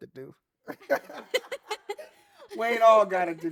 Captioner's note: laughing